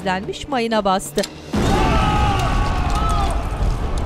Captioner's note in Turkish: Patlama sesi; Çığlık sesleri